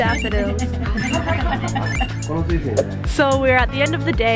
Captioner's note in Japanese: 他の参加者の笑い声